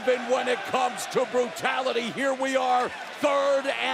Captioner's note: crowd cheering